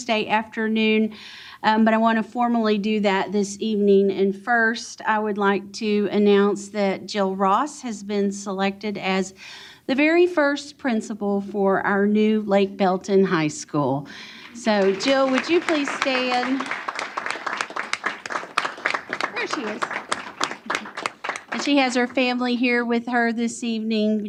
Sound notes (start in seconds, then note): 15.9 applause